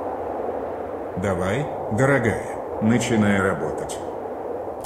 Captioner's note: speaking french